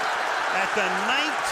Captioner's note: cheering